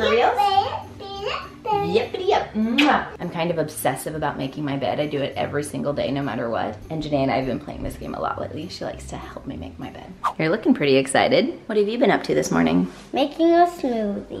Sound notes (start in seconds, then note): 2.7 kiss smacks